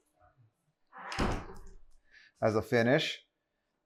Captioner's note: door closes